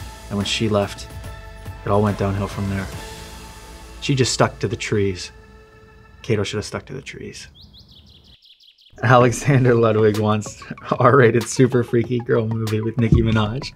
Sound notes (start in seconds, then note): 7.8 birds chirping